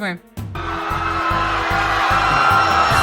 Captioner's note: crowd panic.mp3